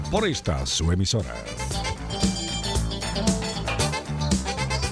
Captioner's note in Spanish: Hablando ingl\s